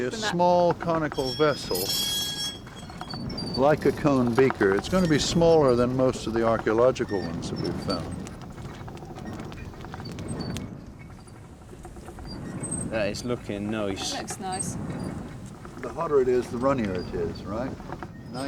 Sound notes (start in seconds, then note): 8.7 fire crackles; 8.7 wind blows